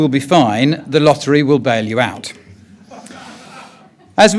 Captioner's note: audience chuckles